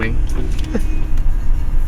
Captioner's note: laughs